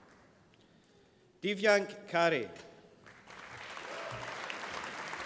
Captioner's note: applause